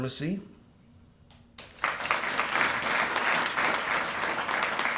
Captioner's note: applause